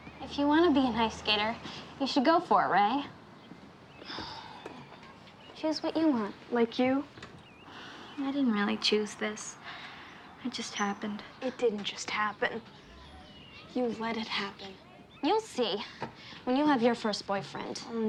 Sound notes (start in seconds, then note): 4.0 sighs